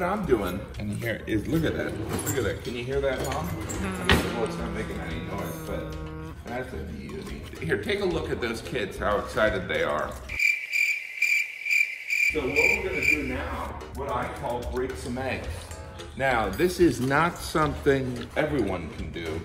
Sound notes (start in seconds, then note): 3.7 humming; 10.3 crickets chirping